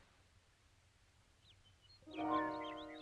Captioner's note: birds chirping; tense music